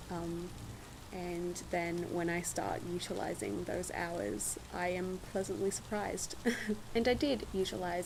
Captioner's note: short laugh